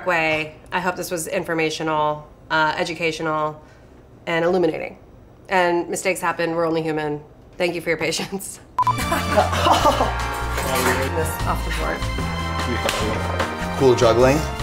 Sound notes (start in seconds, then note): 8.8 romantic music; 8.9 laughs; 9.0 all laugh